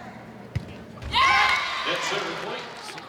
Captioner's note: ball thumping; audience cheering